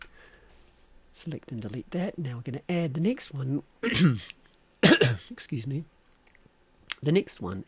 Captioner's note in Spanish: tos-disculpárseme